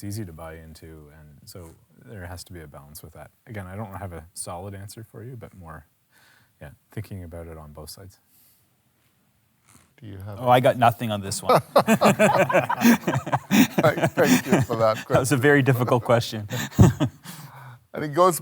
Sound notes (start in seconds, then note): 11.4 panelists laugh; 17.9 chuckles